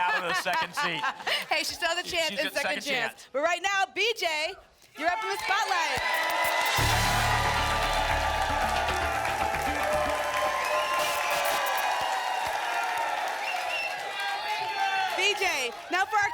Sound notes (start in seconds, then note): 6.1 static; 9.2 applause and cheering; 10.9 static; 12.2 applause and cheering cont